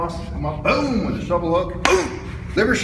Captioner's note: smack